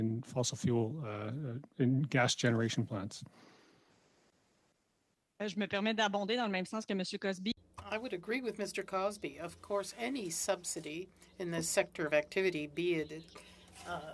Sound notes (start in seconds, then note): 11.7 speaking French